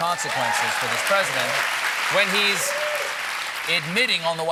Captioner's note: cheers and applause